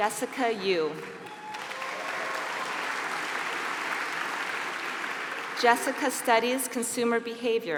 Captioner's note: applause